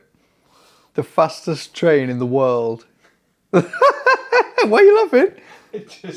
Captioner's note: laughs